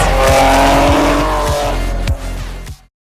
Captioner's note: engine buzzing